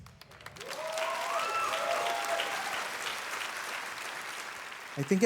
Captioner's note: audience cheering